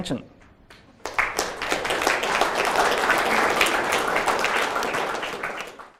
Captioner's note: audience applause